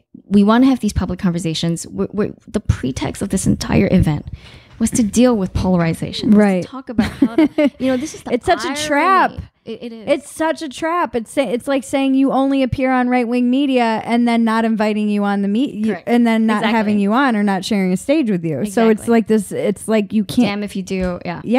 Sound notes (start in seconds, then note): 6.9 laughing